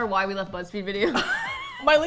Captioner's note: laughs